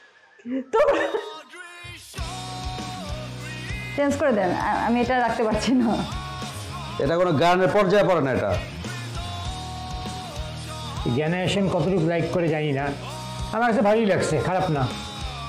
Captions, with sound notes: Change this! I cannot hear this anymore. [laughs] This should not count as a song. I do not know how much the generation likes it I like it, not bad.